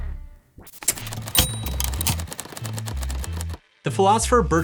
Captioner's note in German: Fröhliche Musik; Klingeln und Klappern der Tasten